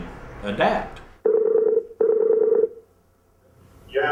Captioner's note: telephone ringing